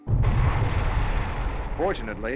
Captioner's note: explosion